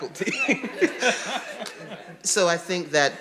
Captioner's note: audience laughing